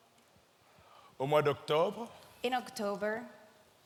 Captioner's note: speaking in French